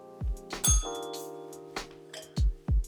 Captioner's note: bell rings; upbeat music